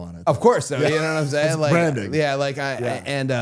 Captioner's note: laughs